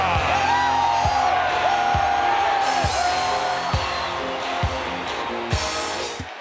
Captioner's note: crowd cheering; intense music